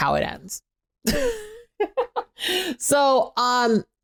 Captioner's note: laughing